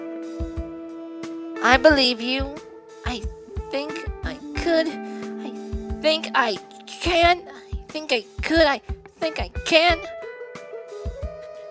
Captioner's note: gasp